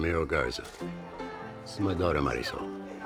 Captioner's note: none